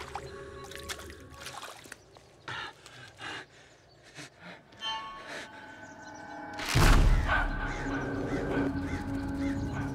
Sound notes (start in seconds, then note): 4.8 piercing sting; 6.6 loud crunch